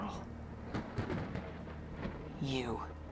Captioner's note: thunder rumbling